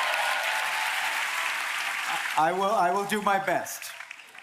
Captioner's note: applause